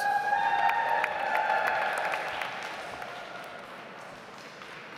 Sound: audience applauds

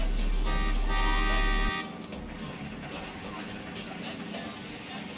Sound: car honking

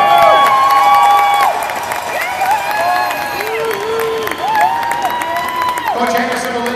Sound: cheering and clapping

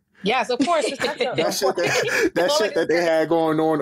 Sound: laughs

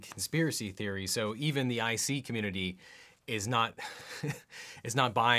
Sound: chuckling

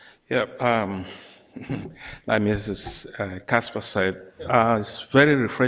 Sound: laughs

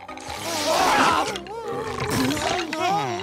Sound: belching

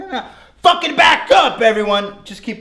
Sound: yelling

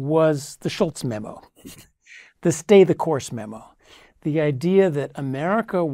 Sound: laugh

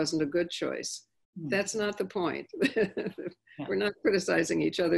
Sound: laughing

